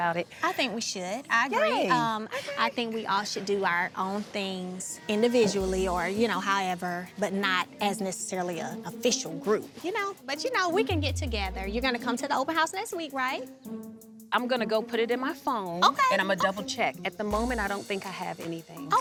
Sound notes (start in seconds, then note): none